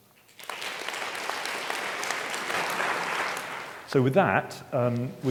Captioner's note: audience clapping